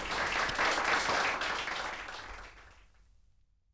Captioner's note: applause